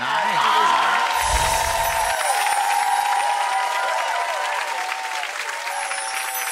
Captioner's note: audience cheering & applauding